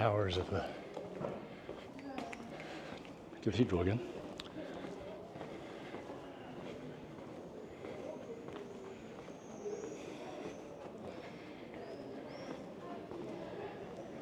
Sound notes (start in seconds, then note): 4.7 birds chirping